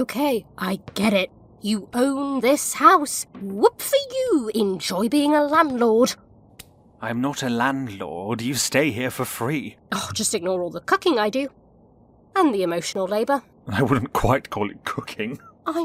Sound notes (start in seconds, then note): 10.1 scoffs; 13.9 laughing